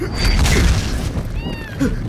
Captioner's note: loud crash; meowing